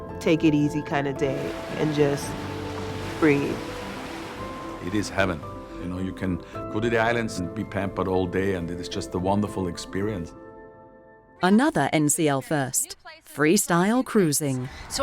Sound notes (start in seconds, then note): 4.0 waves crash